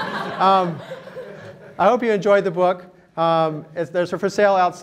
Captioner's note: laughter